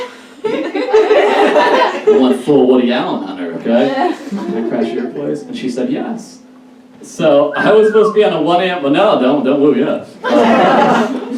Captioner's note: audience Member Whistles; audience Laughs